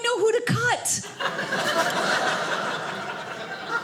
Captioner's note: audience laughing